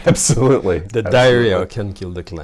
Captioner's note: laughs